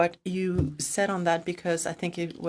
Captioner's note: speaking in French